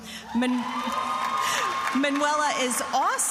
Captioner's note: attendees applauding and cheering